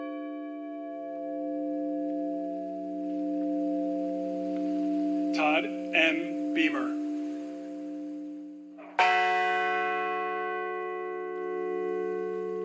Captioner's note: sound of bell ringing